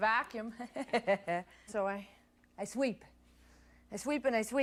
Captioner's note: laughs